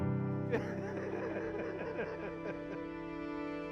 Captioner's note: laughs